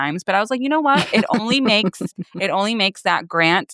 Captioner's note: chuckles